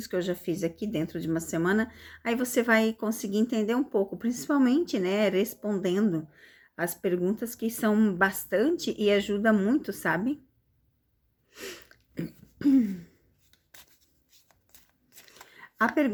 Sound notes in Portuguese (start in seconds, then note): 12.1 limpando a garganta